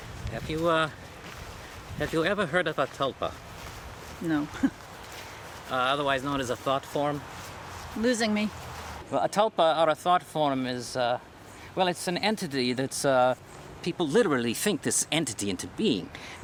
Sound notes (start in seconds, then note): 4.5 laughs